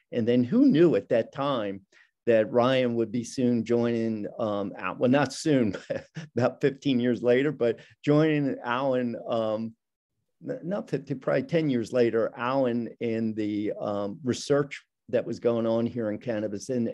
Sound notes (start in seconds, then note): 5.6 chuckling